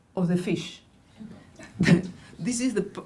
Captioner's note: laughing